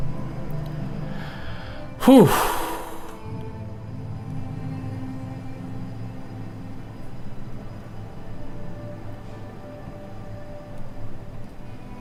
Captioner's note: sighs